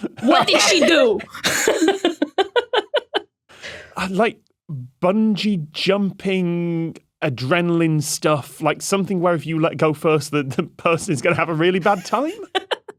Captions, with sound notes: What did she do?! (giggles) Bungee jumping, adrenaline stuff. Something where if you let go first, the person is gonna have a really bad time?